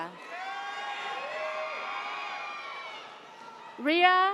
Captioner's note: audience cheers